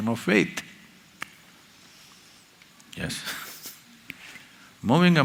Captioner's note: laughs